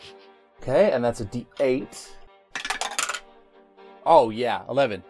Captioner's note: dice clacks continue